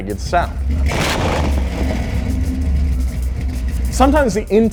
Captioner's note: engine revs